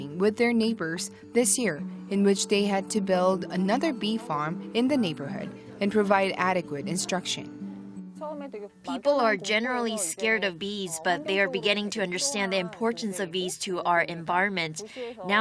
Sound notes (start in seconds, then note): 7.7 Korean